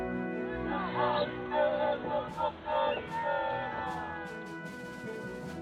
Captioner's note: haka in Māori